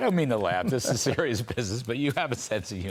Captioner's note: laughter